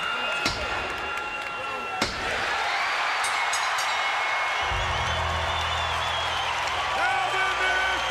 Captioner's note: applause